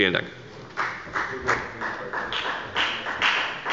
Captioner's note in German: Beifall bei der FDP